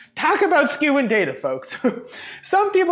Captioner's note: chuckles